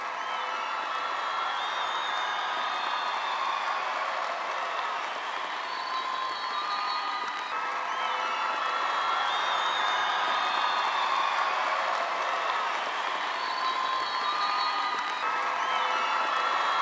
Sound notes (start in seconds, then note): 7.2 attendees applauding